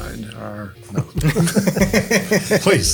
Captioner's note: group laughs